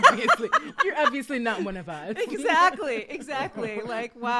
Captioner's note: laughing